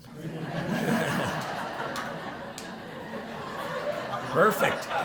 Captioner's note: laughter